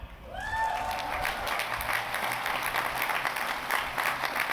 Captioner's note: applause